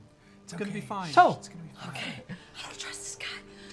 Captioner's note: whispers